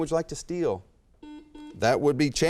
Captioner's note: buzzer chimes